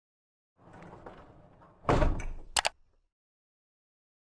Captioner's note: bump and click